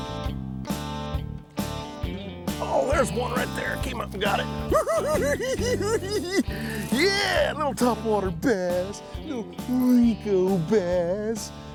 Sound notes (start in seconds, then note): 1.3 twangy guitar music; 4.8 cackles